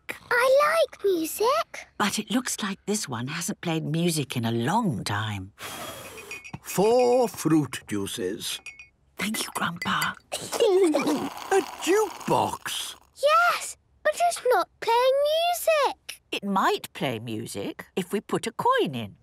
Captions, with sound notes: - I like music! - But it looks like this one hasn't played music in a long time... (blows) - Four fruit juices. - (Granny whispering) Thank you, Grandpa! - (children giggling) - A jukebox!? - Yes... But it's not playing music. - It might play music if we put a coin in.